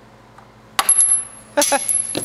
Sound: hammer bang; metal clings; laughs

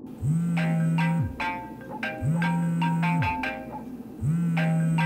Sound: phone chiming and vibrating

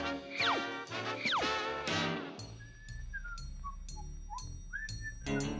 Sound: whistling

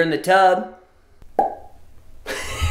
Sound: popping; laughing

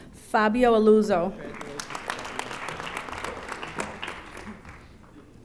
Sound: audience applauding

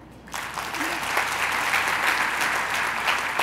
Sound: applause

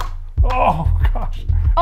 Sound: canvas clicks

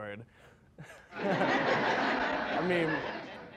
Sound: crowd laughing

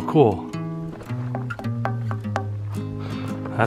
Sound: metal thud noise

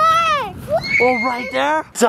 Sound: screaming

